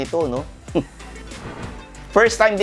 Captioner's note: scoffs